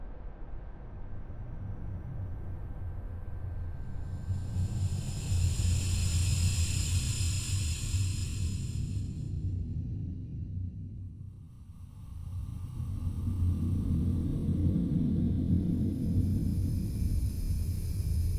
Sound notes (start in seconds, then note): 4.0 slowed down breathing